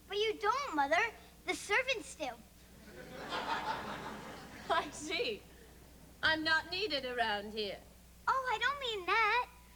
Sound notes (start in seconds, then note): 2.8 laughter